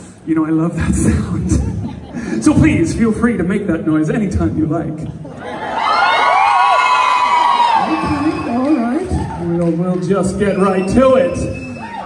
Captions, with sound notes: You know I love that sound. So please feel free to make that noise anytime you like. (Crowd cheers louder) Okay. Alright. We will just get right to it!